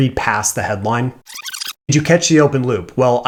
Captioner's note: distorting